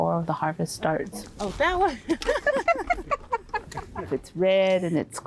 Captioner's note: laughs